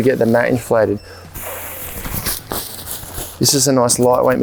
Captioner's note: blows air